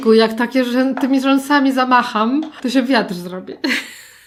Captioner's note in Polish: śmiech